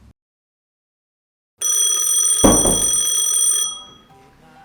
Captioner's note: phone ringing